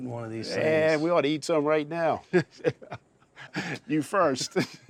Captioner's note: chuckling; chuckling